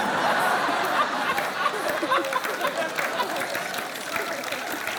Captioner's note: laughter, applause